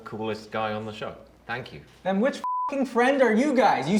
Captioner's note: beep